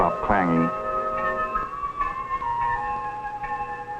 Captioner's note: bell clanging